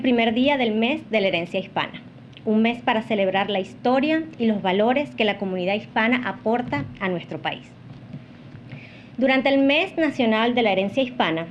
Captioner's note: speaking non-english